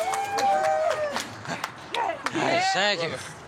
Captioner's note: group applauding